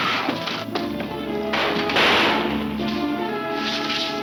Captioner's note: crashing; gunfire pops